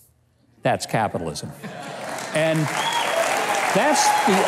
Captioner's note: audience applauding